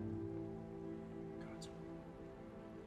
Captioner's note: whispers